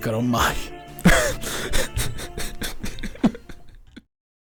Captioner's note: cries in Italian